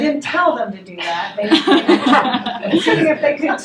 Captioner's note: laughter